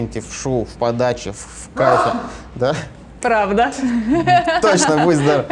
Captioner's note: loud sneezing